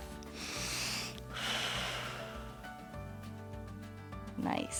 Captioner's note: inhales and exhales